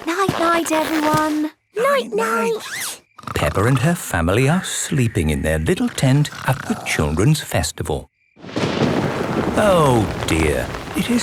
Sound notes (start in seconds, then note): 2.8 snores; 8.4 thunder rumbling